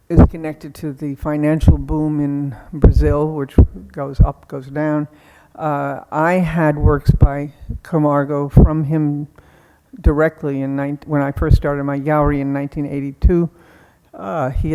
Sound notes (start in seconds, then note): none